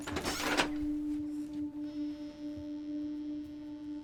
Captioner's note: door creaks